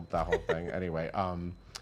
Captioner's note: laughs